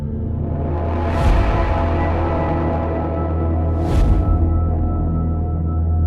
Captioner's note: tense droning music; transitions whooshing